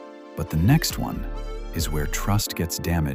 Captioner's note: lower voice